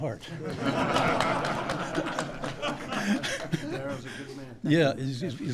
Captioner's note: laughter